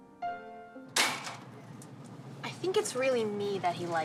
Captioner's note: clanging